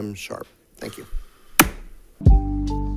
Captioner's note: gavel bangs; relaxing music